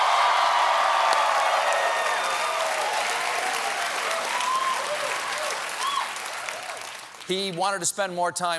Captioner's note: cheers and applause